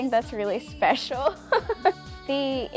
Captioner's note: chuckles